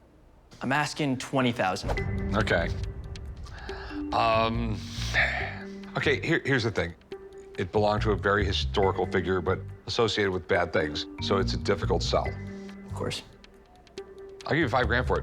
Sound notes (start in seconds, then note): 4.8 sighs